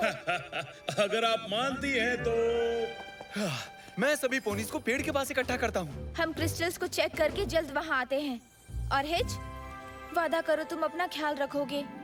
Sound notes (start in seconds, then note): 0.0 Spike laughing; 3.3 Hitch exhales